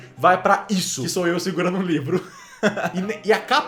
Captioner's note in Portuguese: risos